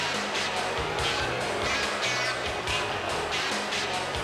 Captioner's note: crowd boos